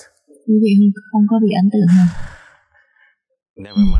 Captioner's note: sigh